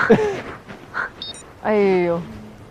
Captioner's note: laughs